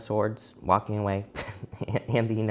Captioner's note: chuckles